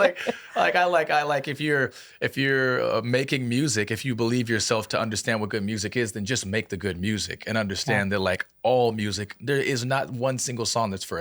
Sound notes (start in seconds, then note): 0.0 laughing